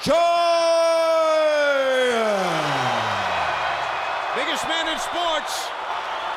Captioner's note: crowd cheers